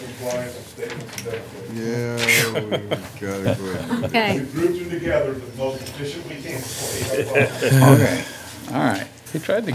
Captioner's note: chatter